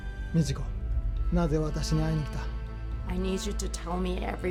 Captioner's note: speaking foreign language